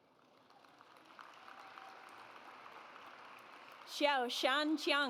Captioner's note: audience applauds